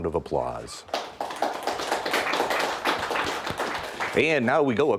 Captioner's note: applause